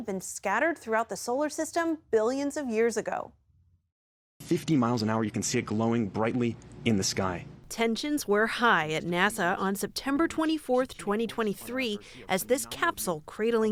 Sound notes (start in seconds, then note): 8.3 voice-over